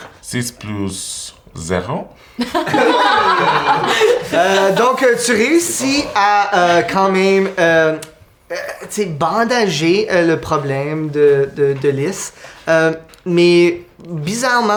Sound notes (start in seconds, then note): 2.4 laughter